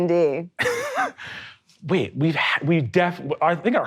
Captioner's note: chuckles